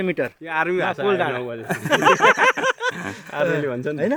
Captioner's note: laughter